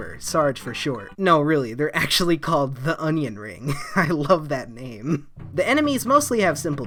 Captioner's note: chuckle